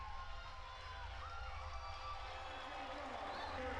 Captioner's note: crowd cheering